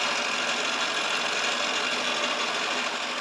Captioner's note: slight squeaking